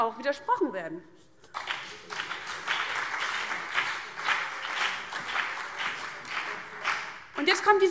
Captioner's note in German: Beifall CDU und BÜNDNIS 90/DIE GRÜNEN